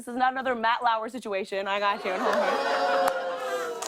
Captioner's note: audience "Oohs"